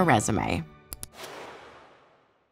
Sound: mouse clicks

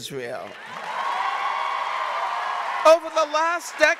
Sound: audience cheering and applauding

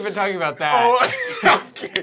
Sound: laughter

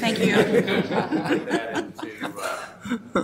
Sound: audience laughing

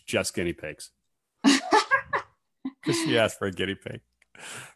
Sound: laughs

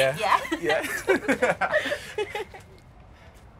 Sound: laughing

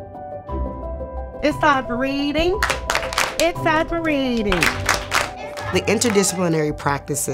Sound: claps

